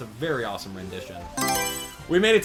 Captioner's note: Mario Selection Sound